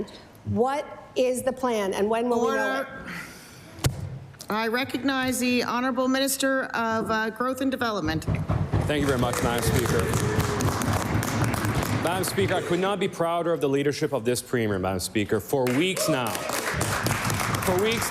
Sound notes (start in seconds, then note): 13.0 applause